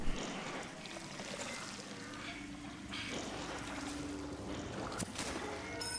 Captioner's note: water splashing